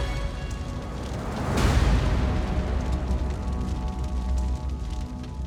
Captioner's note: flames crackling